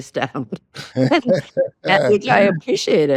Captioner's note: both laugh